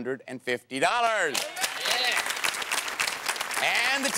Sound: applause

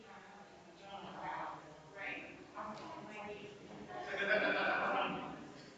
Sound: people chattering distantly continues

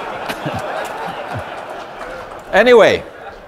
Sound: audience laughter

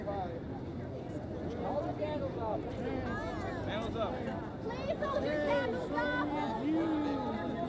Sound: voices in crowd; ambient noise and singing

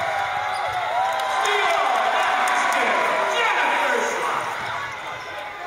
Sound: cheers

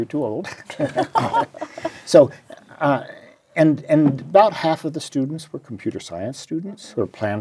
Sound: laugh

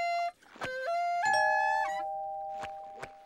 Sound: doorbell ringing

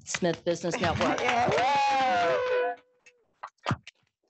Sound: applause

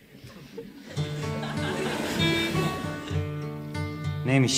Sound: audience laughs

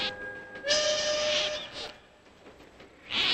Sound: Tootle Whistling

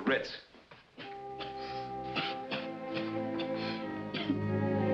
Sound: coughs

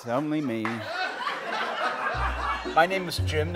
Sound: laughter, bouncy music starts

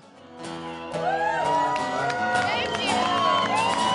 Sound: cheers and applause

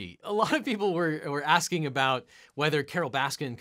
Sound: chuckles

